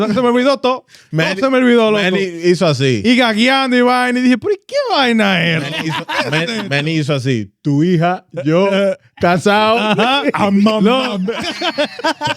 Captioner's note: laughing; speaking In Foreign Language